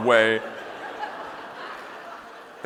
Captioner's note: audience laughing